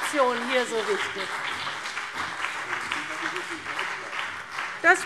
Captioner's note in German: Beifall CDU und BÜNDNIS 90/DIE GRÜNEN